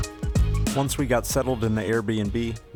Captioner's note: voiceover